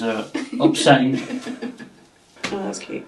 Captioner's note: person laughing